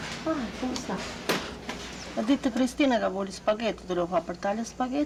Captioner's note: speaking Italian